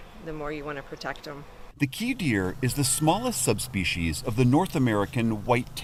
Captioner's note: voice-over